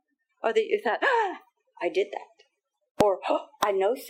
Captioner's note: gasping